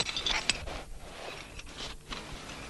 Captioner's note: none